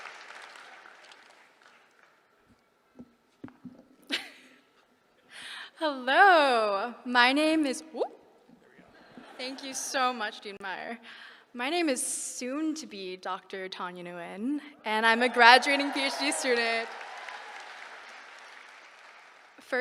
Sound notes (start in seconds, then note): 5.4 laughs; 17.2 applause